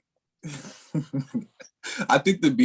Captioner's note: laughs